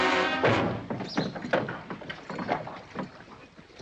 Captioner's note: rattling sound